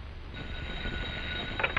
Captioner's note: phone ringing